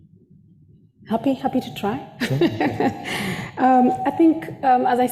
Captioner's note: laughs